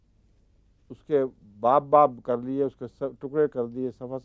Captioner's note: Arabic